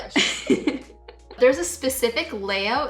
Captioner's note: both laugh